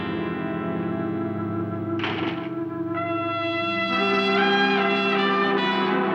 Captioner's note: door latching; tense dramatic music